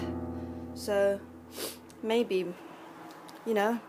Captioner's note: sniff